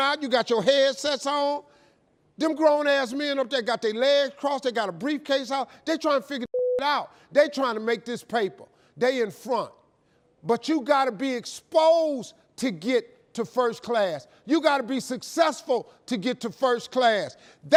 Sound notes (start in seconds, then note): 6.5 beep